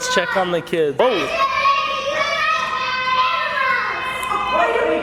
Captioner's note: kids making noise